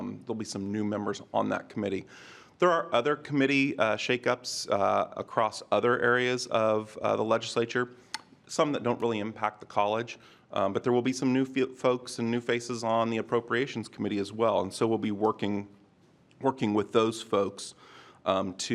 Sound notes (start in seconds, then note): none